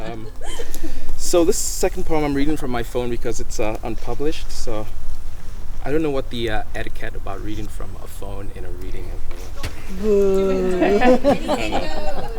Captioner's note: teasingly